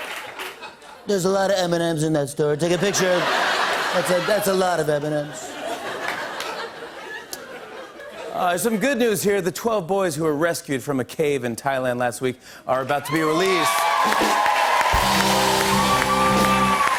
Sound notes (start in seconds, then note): 0.7 As Trump; 5.3 laughter; 8.1 normal voice; 13.0 cheers and applause